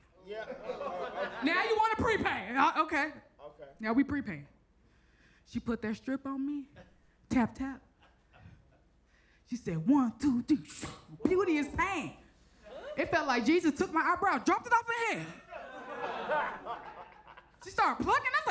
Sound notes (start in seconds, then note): 10.9 strip wooshes; 15.3 audience chatters